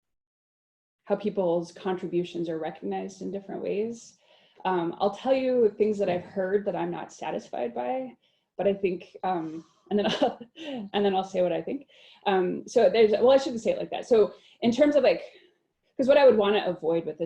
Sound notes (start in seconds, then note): 10.0 laughter